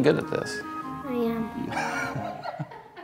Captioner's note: laughter